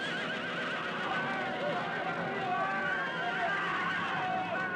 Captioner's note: chatter